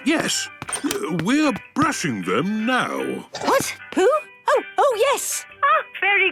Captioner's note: none